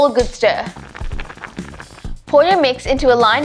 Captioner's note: stirring